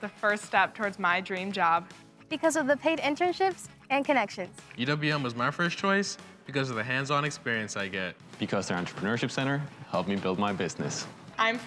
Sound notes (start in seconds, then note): none